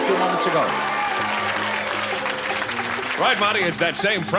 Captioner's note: applause